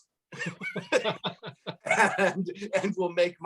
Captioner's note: laughs